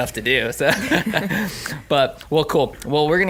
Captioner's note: laughing